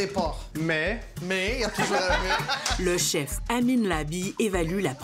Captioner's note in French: rires